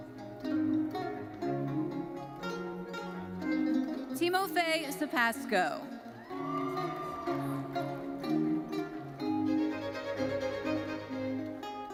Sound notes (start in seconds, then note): 6.1 audience cheering and applauding; 7.9 orchestral music continues